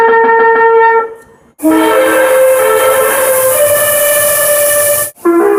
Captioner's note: air Horn + Music Horn